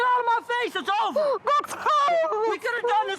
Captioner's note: crying